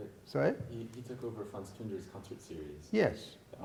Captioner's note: speaks in foreign language